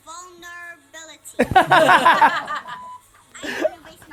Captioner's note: laughing